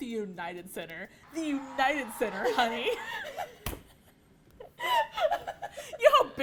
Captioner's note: laughter